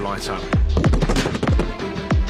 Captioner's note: popping